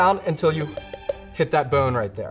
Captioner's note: knife thuds against bone